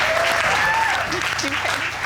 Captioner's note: audience whooping